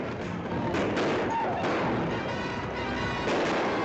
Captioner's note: gunfire continues